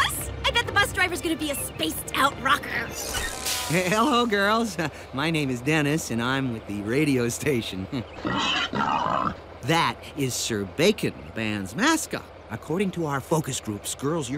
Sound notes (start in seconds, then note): 8.1 pig squeals